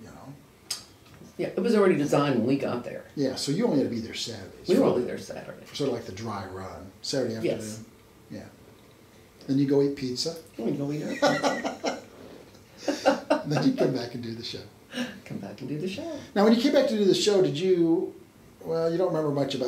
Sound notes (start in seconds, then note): 11.0 laughs